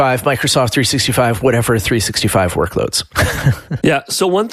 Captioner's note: laughs